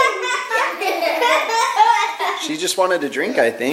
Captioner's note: kids laughing